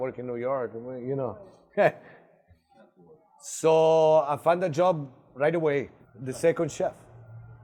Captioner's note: laughs